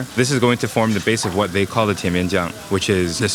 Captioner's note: speaking in foreign language